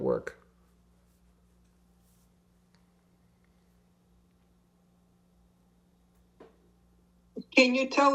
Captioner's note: pauses 6 seconds